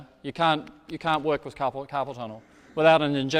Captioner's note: taps